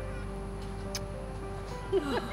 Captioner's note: kiss